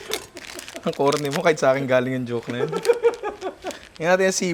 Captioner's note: laughs